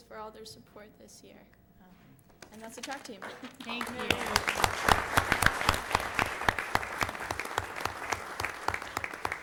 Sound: applause

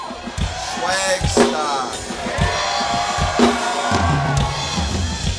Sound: crowd cheering

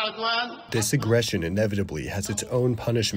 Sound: through translator

